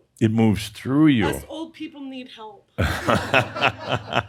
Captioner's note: more laughter